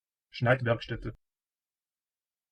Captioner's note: fast Pronunciation